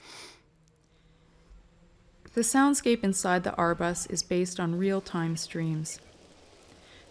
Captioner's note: voiceover